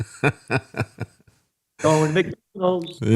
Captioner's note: laughing